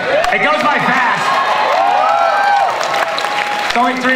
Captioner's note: audience cheering and applause